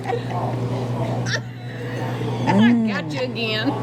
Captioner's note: laughs